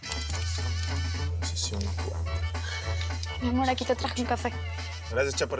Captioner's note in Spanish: Tecleo